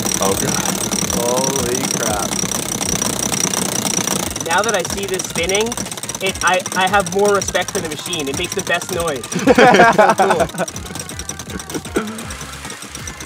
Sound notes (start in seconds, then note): 9.2 hosts laugh